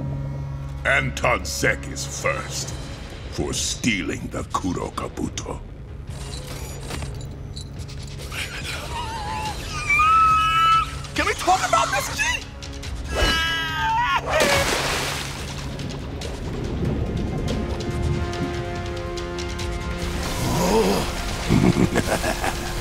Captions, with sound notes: Anton Zeck is first for stealing the Kuro Kabuto. [groaning] Can we talk about this, G? [screaming] [splashing] [gasping] [laughing]